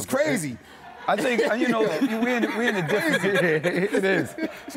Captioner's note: laughing